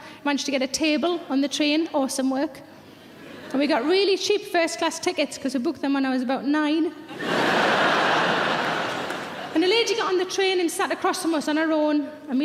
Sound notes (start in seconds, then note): 7.1 audience laughs